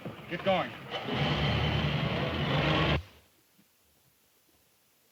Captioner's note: engine revs